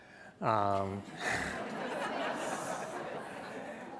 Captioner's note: laughter